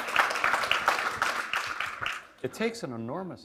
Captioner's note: applause